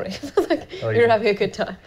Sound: laughing

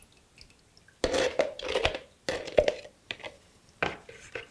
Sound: scrapes plastic; plastic clacks

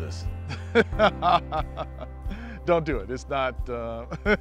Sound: laughs

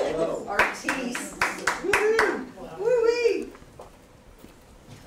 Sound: audience applause and cheers

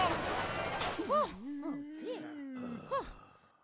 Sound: sighing in relief

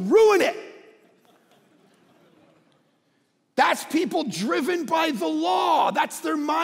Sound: congregation laughing

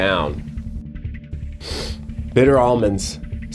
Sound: sniffs

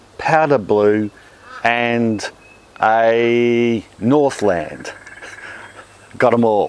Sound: laughs

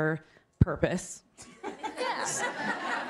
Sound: laughter

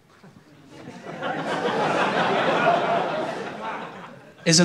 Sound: laughter

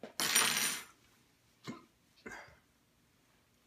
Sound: coughs

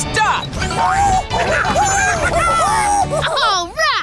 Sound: monkey noises

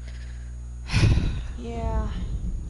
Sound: sigh

